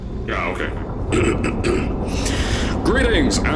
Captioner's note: ahem